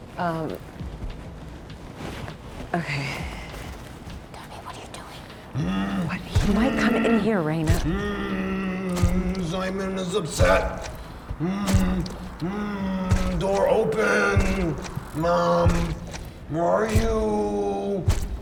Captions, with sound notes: Um, okay. Tell me what you are doing? (loud moaning) He might come in here, Raina. (loud moaning) Simon is upset. (loud moaning) Door open. Mom, where are you?